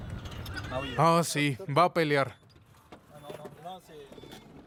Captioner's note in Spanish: Audio hablado en francés